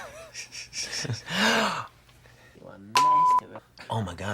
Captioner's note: laughing